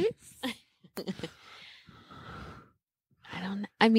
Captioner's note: laughing